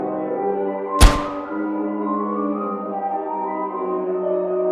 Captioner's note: gunshot